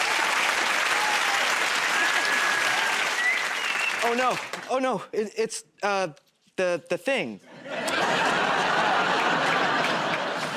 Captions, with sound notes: [ Applause ] -[ Whistles ] -Oh, no. Oh, no. It's, uh, the -- the thing. [ Laughter ]